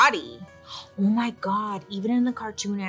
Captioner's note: gasps